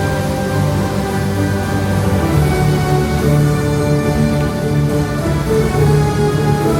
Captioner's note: epic music plays; fountain splashes